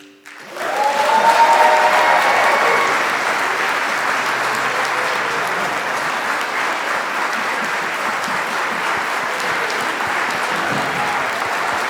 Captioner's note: applause